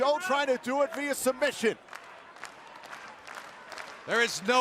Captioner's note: crowd cheering